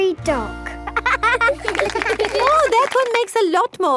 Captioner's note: laughing